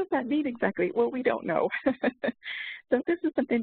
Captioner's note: laughs